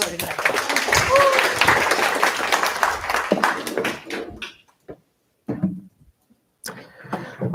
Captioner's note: cheers, applause